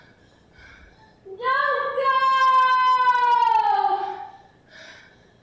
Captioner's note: shouting